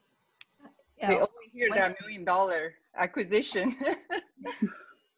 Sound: laughs

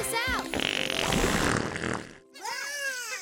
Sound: farting; chuckling

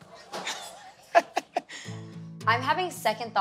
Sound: laughs

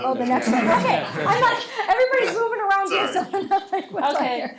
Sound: laughs

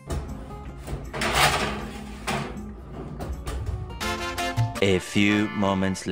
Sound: sheet pan clatters

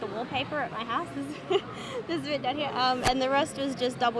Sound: laughs

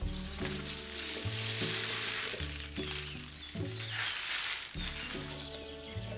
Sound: tulips squeak

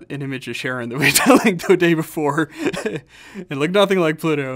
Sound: laughing

